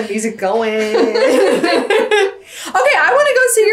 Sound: laugh

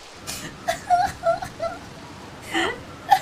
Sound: sobbing

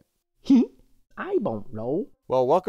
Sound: Stringbean laughs

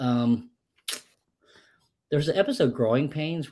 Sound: clicks tongue

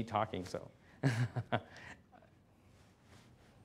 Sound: chuckles

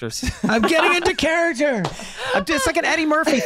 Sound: Meg laughing

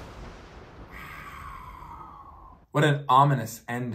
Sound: whispers

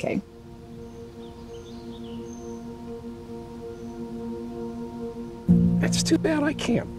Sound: birds chirping; serene music

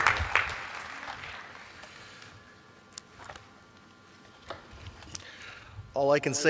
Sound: applause

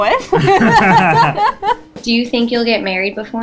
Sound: laughing

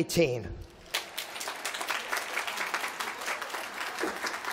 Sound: applause

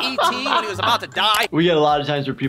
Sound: laughter

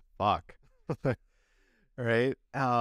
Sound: laughter

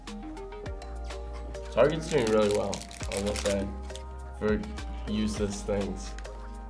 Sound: none

